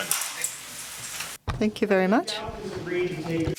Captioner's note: voiceover